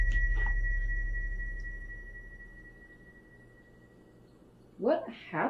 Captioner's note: ringing tone fading out